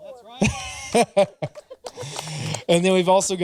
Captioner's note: laughing